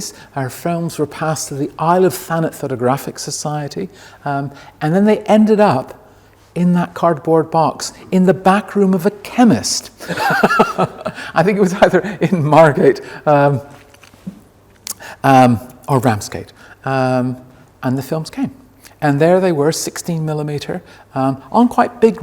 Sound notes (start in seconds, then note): 10.0 laughs